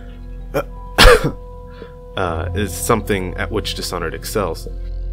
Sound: cough cough

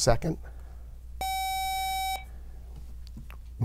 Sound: buzzer

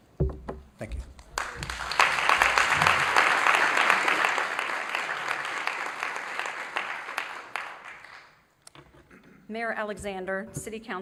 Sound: applause

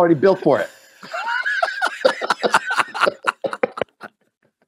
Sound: both laugh

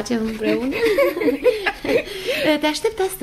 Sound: both laugh

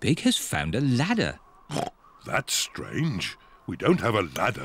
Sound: oinks

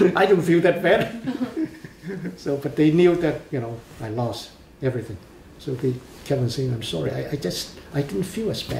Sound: laughs

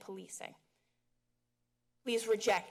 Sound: pause

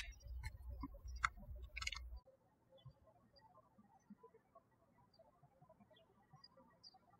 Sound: birds chirping

